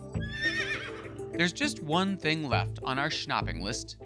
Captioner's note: horse whinnies